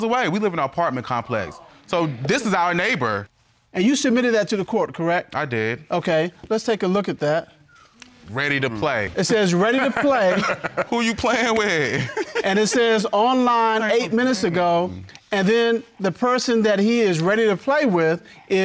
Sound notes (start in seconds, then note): 9.6 laughs hysterically